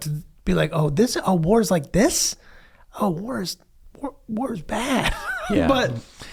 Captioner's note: laughs